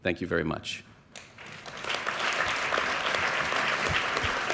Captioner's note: applause